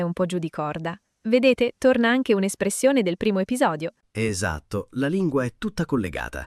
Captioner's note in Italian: schiarire la voce